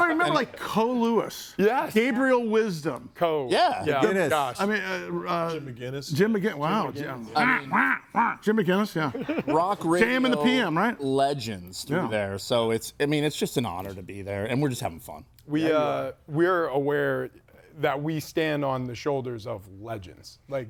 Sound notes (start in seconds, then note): 3.8 group chattering; 6.7 group chattering; 7.3 person laughs